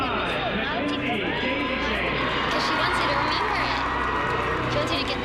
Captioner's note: cheering and applause